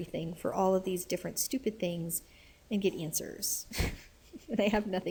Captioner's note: laughs